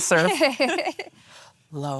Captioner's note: laughing